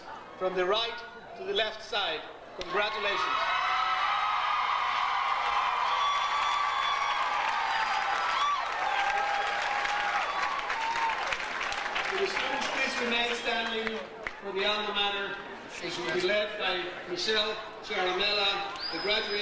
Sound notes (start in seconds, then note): 3.4 audience cheers; 3.5 audience applauds